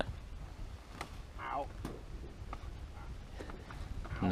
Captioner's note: groans of pain